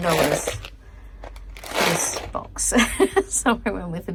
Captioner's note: box rattles again; pack rattles loudly; laughs